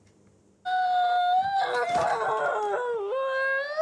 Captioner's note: whimpers, cries